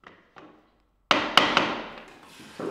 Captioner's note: knocking